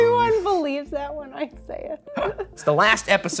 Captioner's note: chuckling